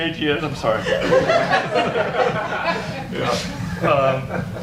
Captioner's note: audience laughs